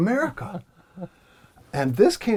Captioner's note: laugh